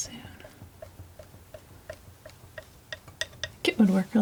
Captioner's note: tapping